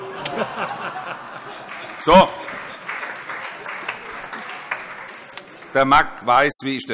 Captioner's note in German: Heiterkeit CDU, SPD und AfD